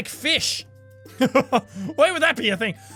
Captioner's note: laugh